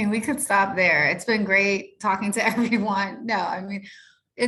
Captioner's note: chuckles